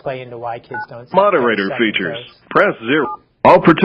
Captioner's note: automated Voice